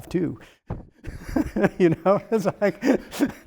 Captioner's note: laughs